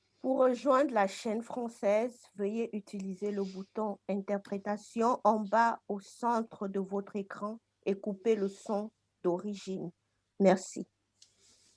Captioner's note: speaking french